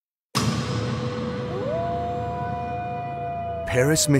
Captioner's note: wolf howls